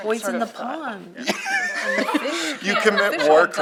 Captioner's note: laughter